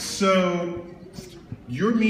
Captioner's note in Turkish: none